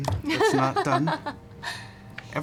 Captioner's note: laughs